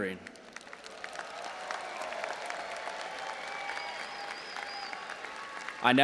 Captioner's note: audience applauding and cheering